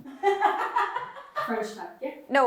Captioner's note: woman offscreen laughing